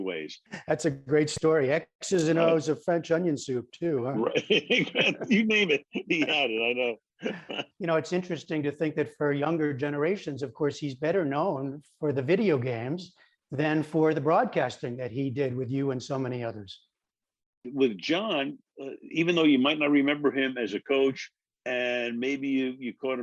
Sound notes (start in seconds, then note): 4.2 laughter